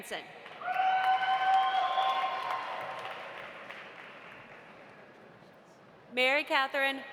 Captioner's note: audience applauding; audience cheering